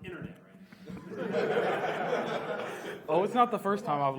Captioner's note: audience laughs